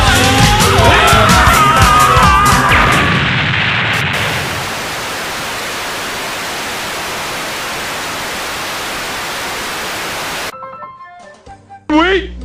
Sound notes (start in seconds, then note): 0.9 glitchy screaming with chaos in the background; 3.8 static